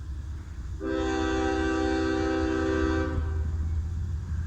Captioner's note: CSX Q046 horn